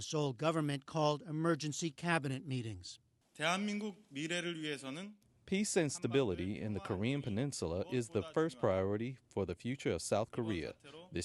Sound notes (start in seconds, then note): 4.7 through translator